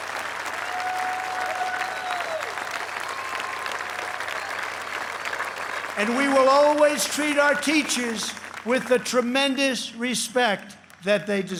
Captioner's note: applause